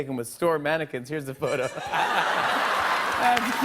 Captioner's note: laughter